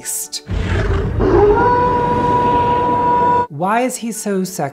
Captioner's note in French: Hurlement